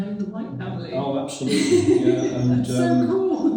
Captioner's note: laughs